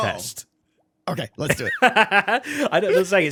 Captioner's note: laughs